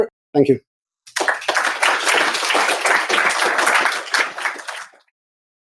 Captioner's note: applause